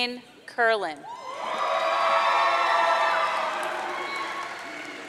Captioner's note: audience cheering